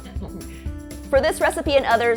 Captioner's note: laugh